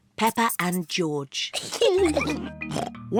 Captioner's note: both giggle